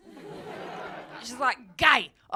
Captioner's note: audience laughing